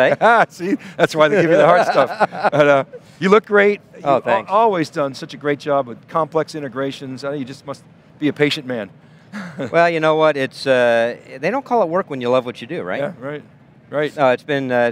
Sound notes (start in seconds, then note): 0.0 laughs; 9.3 giggles